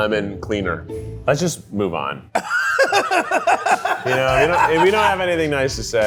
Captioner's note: laughs